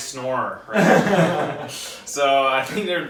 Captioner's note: laughs